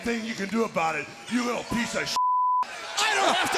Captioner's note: beep